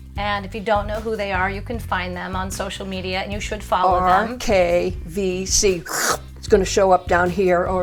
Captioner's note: schwoop